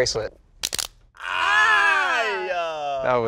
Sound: all exclaim

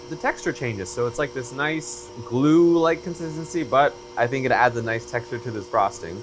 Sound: none

